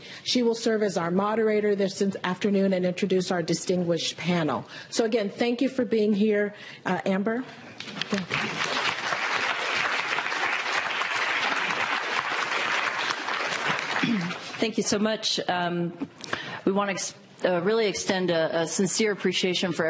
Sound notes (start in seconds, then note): 7.9 applause